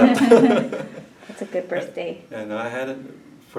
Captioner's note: laughs